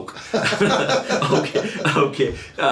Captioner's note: laughing